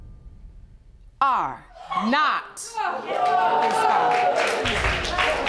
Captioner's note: audience gasping